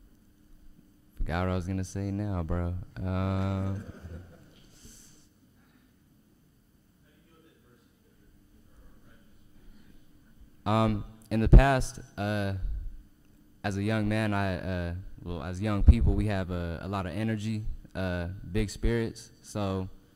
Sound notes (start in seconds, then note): 3.5 audience laughs